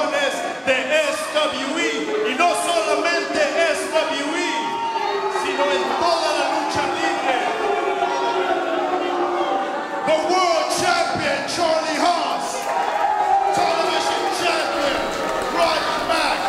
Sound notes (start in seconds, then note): 7.5 crowd booing